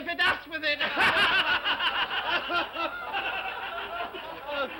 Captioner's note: all laugh